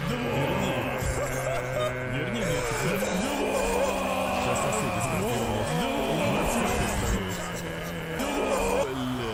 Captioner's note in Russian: крик